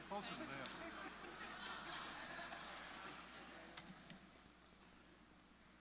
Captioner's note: laughter